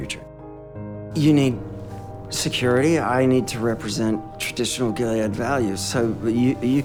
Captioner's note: voiceover; voiceover